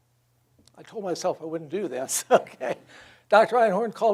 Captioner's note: laughs